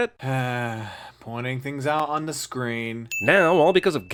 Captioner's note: sigh